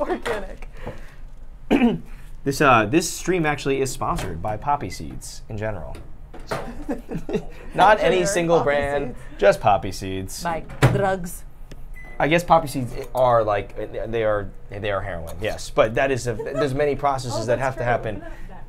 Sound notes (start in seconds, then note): 6.6 laughs; 10.7 microwave bangs; 11.9 microwave beeps